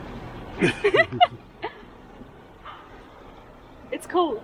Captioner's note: laughter